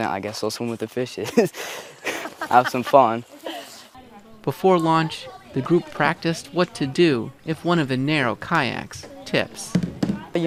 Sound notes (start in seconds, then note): 2.0 laughing